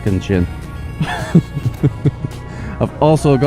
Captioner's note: laughs